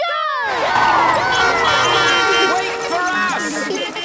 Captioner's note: beeping; laughter